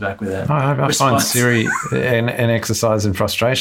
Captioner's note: laughs